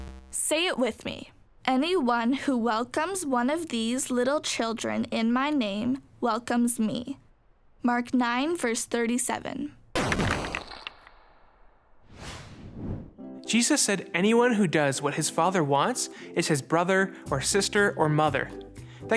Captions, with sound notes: Say it with me. (rocks crashing) - Jesus said, anyone who does what his father wants, is his brother or sister or mother.